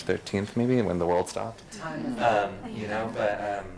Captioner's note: group laughs